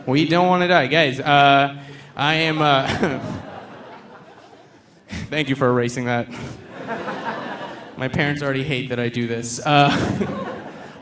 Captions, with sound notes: We don't wanna die. Guys, I am (chuckles)... Thank you for erasing that. (audience laughing) My parents already hate that I do this.